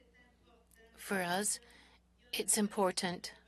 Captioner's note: speaking French